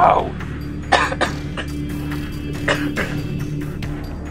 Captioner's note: voice Actors actual coughing